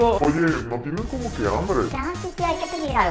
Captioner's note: deep voice